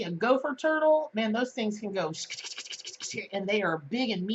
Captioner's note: skittering noise